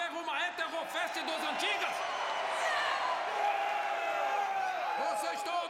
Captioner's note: cheering and shouting